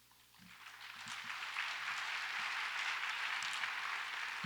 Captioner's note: audience applauds